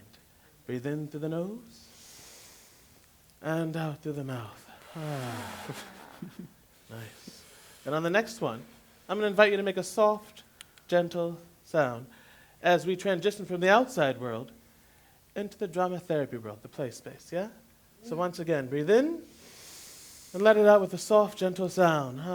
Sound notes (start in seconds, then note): 1.9 inhale; 4.6 exhale